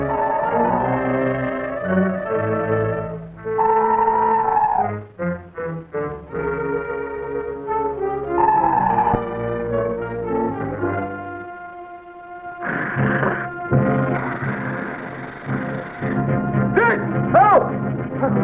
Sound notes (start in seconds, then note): 0.2 serpent screeches; 3.5 serpent screeching; 8.3 serpent screeches; 12.7 suspenseful music; 14.0 serpent snarls